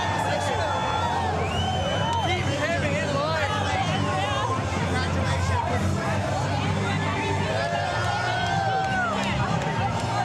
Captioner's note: cheering